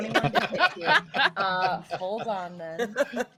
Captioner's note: all laughing